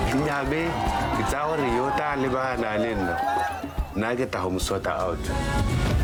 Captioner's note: speaker speaking in foreign language